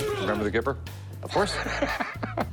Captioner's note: laughs